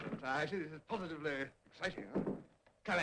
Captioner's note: knock at door